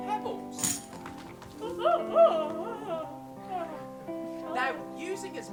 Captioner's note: something falling on the floor; yawning